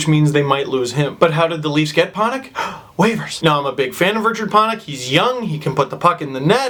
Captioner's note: gasp